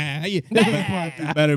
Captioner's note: speaking In Foreign Language